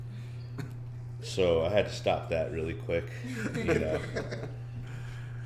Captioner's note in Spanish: risas